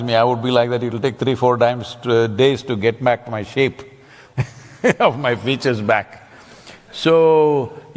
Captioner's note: laughs